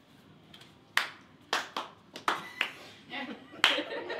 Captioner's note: claps